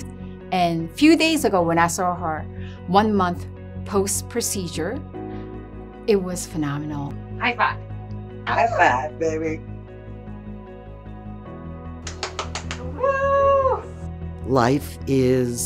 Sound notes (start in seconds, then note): 12.1 applause